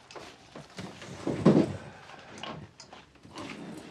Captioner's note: none